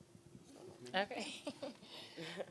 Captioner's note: giggling